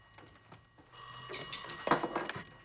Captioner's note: phone rings